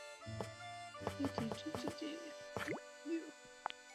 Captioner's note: humming